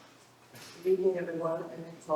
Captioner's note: doors clicking